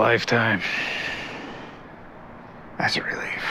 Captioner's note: sighs